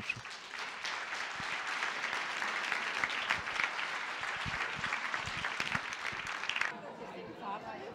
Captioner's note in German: Applaus